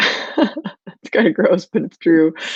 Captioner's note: laughing